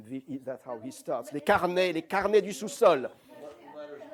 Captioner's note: non-english